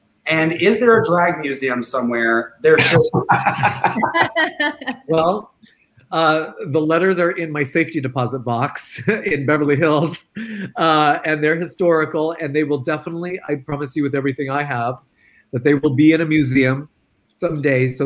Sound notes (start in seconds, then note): 2.7 all laughing; 8.5 laughs